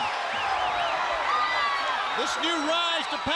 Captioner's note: crowd cheering